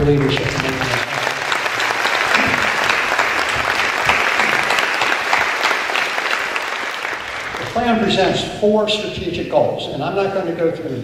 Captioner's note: applause